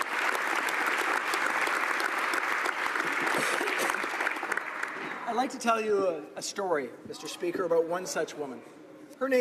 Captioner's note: applause